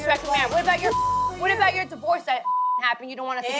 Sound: beep

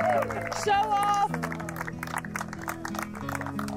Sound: applause

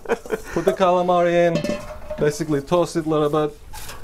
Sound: laughter

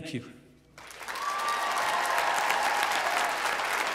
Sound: applause

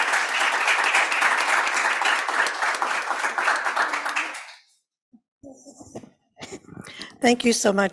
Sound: applause

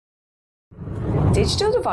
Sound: screen whooshes

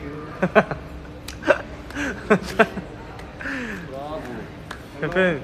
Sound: slow claps

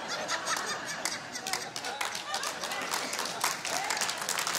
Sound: audience laughing; audience applauding

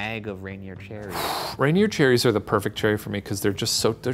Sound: sighs

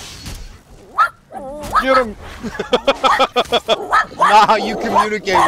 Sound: dog barking

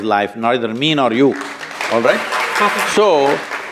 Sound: applause

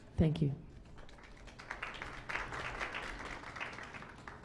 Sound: clapping

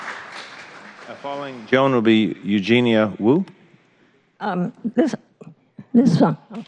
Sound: applause

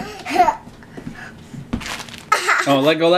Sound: laughs

